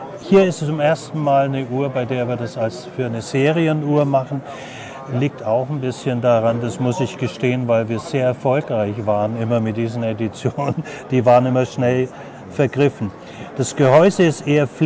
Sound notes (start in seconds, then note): 10.5 laughs briefly